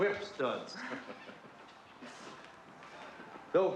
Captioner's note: chuckling